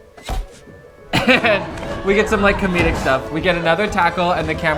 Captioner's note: laughs